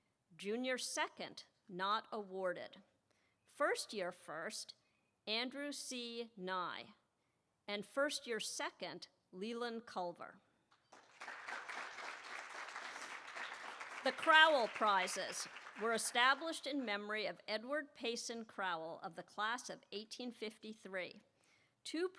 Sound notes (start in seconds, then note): 10.8 applause